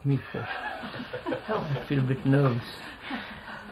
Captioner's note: laughter